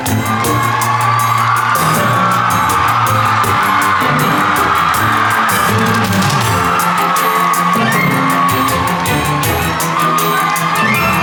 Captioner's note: applause